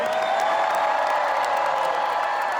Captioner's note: crowd cheering